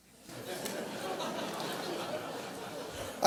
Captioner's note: audience laughs